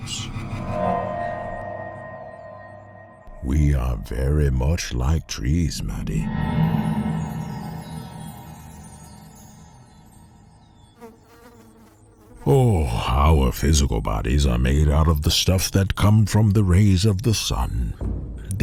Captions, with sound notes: (tense music) We are very much like trees, Maddie. (cymbals chiming), (percussion sounds) (bee buzzing) Oh, our physical bodies are made out of the stuff that come from the rays of the sun,